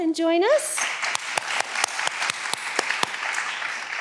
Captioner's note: all applauding